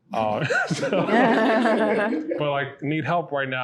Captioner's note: they laugh